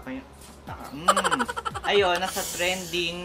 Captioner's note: laugh sound effect